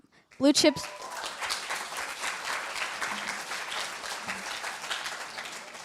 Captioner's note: applause